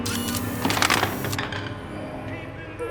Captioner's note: robot whirring; weapon clatters